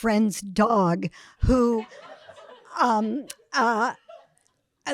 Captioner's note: audience laughing